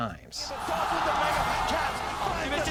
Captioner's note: crowd cheering